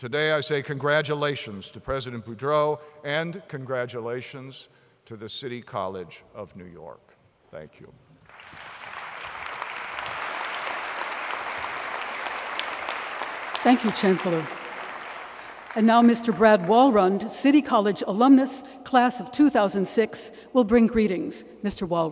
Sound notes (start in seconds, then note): 10.0 applause